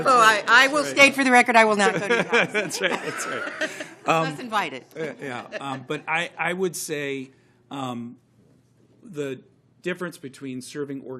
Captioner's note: laughter